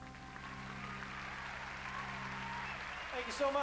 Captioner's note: crowd cheering